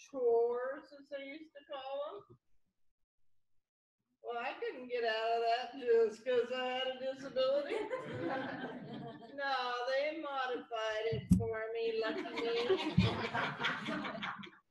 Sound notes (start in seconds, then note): 7.5 laughter; 12.0 laughter